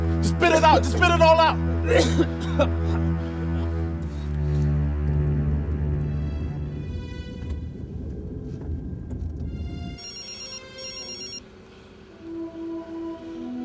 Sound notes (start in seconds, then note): 1.8 Dr. Richards coughs; 2.7 ominous music; 10.0 phone rings